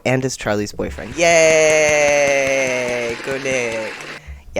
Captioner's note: cheering and applause